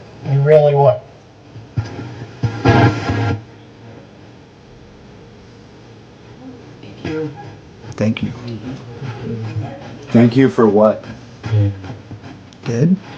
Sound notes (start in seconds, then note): 1.4 radio static hisses